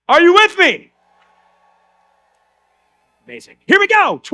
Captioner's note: audience cheers